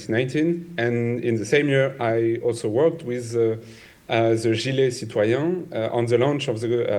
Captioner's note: speaks French